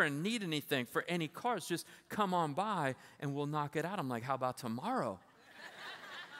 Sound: laughter

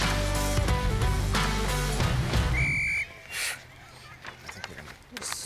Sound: whistle blows

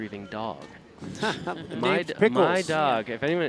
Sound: laughter

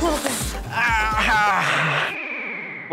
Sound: sighs

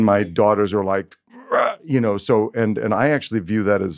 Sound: grumbles

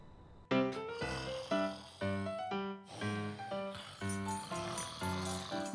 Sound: snoring

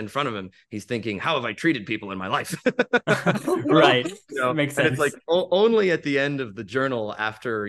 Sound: laughs

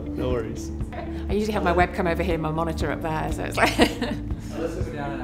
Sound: rire

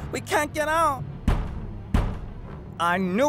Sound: Michael bangs on door

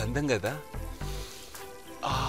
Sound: sniffs

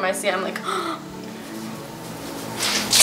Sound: gasps

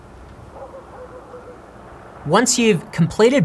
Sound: dog barking

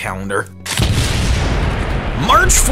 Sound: explosion!!!

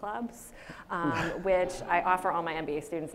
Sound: audience laughs

